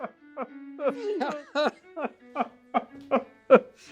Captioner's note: raucous laughter